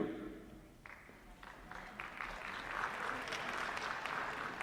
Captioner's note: applause